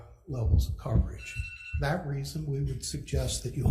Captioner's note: timer sounds